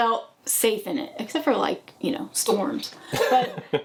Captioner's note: laughing